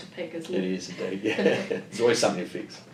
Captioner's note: laughs